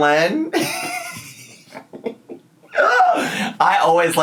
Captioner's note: laughing